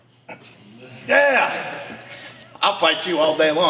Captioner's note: yells